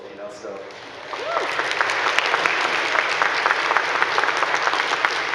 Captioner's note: audience clapping